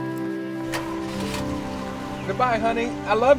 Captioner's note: engine rumbling